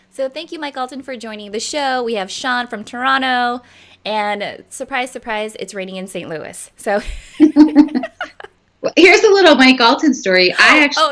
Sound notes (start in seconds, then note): 7.4 laughing